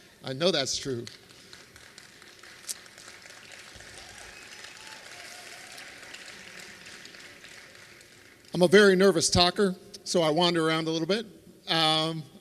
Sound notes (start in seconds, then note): 3.4 applause